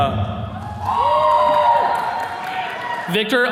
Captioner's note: attendees cheering